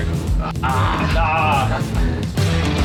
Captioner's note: groaning; rock music